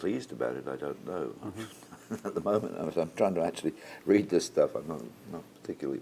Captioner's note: laugh